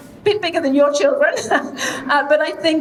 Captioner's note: chuckling